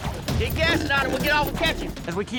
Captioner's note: shouting